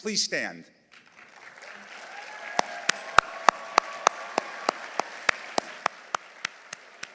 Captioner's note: audience applauding; audience cheering